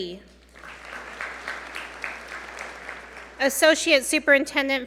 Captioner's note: audience applaud